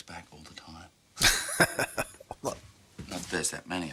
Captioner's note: chuckling